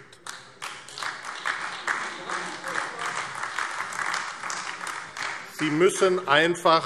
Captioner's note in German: Beifall AfD